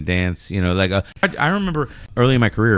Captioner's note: uh